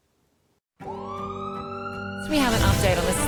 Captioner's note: siren